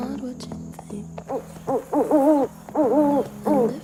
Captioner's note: animal whimpering